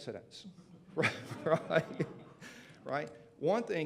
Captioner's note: laughter